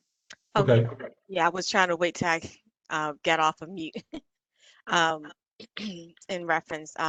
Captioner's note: laughter